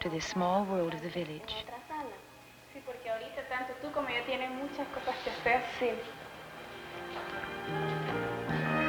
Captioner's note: speaking Spanish